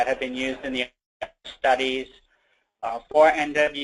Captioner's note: audio disruption